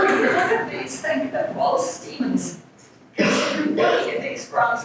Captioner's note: audience member coughs